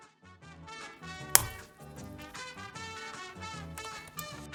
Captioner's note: clicking